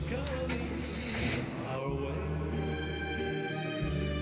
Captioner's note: englne revs